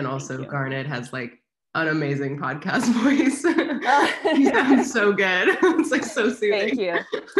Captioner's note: both laugh